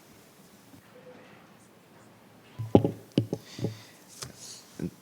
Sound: speaking faintly

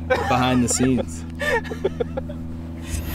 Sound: laughing

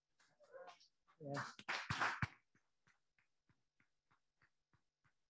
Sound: audience applauding

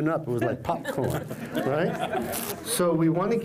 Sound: laugther

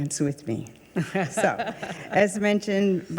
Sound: chuckling

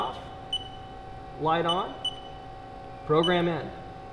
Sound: beeping

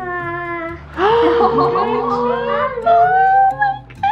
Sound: mom gasping

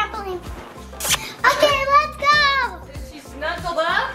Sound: kissing sound

